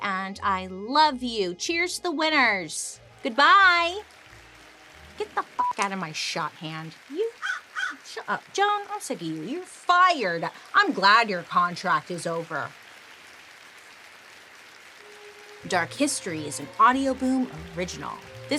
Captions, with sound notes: and I love you. Cheers to the winners! Goodbye! Get the (beep) out of my shot, hand. (Joan caws) Shut up, Joan. I'm sick of you. You're fired. I'm glad your contract is over. Dark History is an Audioboom original.